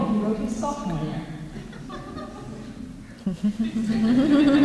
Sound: laughter

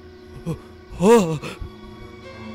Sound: gordon gasps

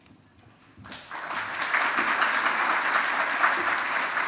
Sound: audience claps

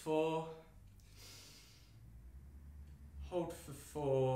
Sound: inhaling

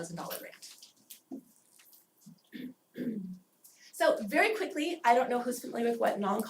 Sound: cough

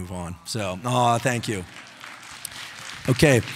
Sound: audience applauding

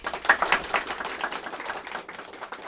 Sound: applause

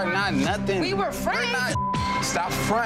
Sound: beep

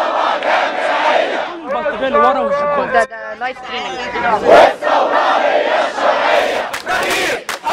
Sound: chants

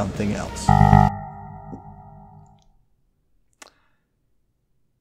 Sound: wild error beeps

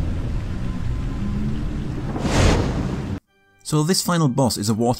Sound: in-game audio

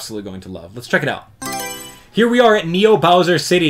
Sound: Mario Selection Sound

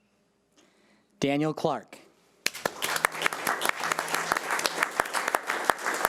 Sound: audience applauding

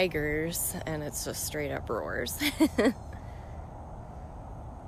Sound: laughter

